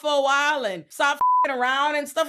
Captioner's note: beep